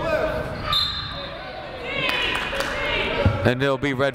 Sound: whistle blowing

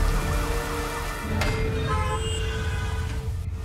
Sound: horn beeping

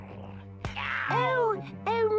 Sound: Henchman Weasel grunts; hand smacks

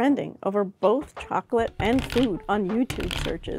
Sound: chocolate crunching

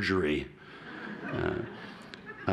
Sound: laughter

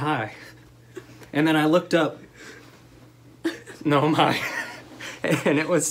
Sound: laughter

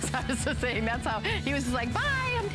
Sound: laughter

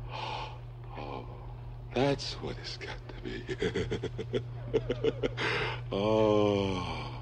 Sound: laughs

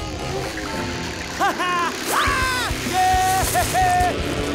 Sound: laughing, cheering

